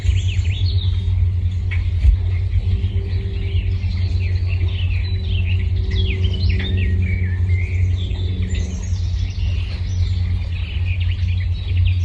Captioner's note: birds singing